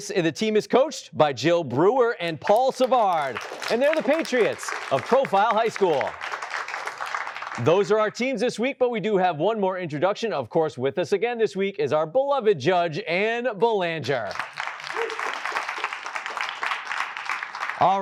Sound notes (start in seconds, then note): 6.6 applause; 14.2 applause